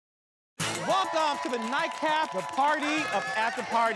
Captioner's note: audience cheering